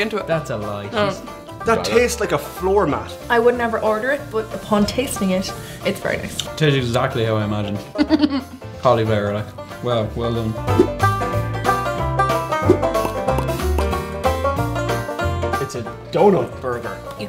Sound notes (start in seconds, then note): 7.9 laughs